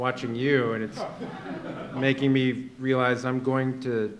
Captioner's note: laughter